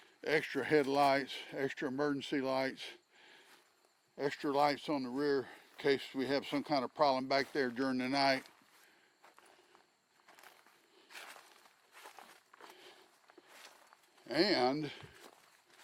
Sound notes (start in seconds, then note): 9.1 breathing heavily